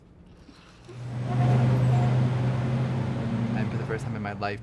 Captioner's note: traffic